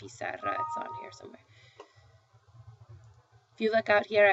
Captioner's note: speaking spanish